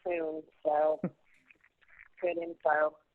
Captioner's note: laughs; laughs